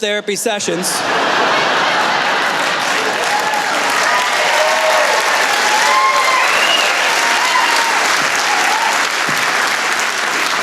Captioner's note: laughter